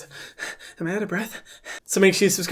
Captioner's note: panting